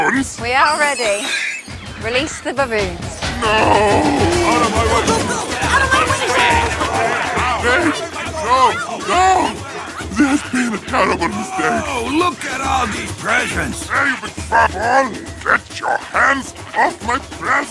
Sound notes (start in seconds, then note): 5.5 baboons shout